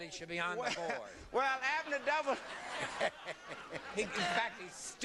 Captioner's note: laughs